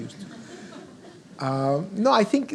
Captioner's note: audience laughs